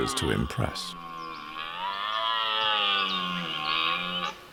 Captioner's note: deer roars